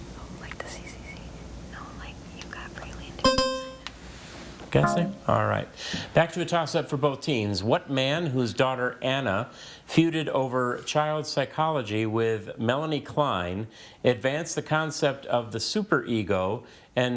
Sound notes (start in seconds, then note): 3.3 buzzer dings